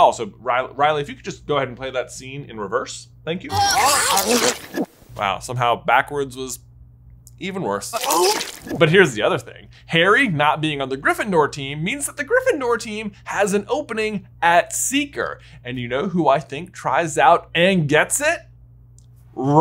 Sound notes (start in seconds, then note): 3.5 Ron retching; 7.9 Ron retching